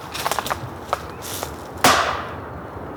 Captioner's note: banging sound